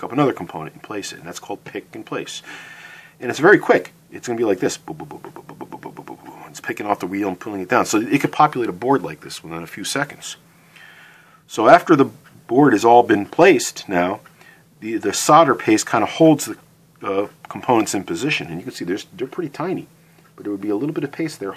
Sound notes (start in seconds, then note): 4.8 mimicking the pick and place sound